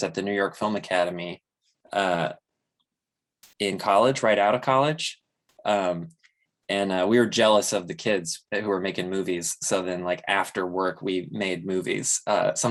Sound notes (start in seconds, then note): none